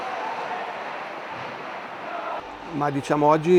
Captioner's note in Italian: Applauso